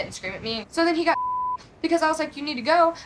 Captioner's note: beep